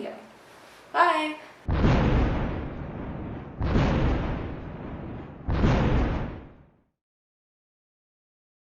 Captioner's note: thunder